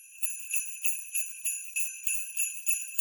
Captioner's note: sleigh bells